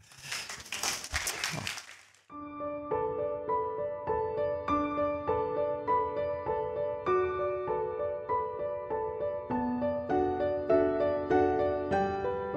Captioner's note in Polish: Aplauz